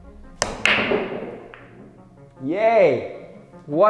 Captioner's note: billiard balls knocking